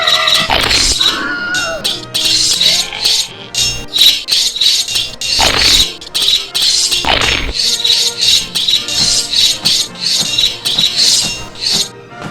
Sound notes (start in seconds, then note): 0.0 battle cry; 0.0 swords and spears clanging; 0.4 crunch, swords and spears clanging; 0.9 swords and spears clanging; 1.1 screaming; 1.9 swords and spears clanging; 3.3 groaning; 3.5 swords and spears clanging; 5.3 swords and spears clanging, crunch; 6.0 swords and spears clanging; 7.0 swords and spears clanging, crunch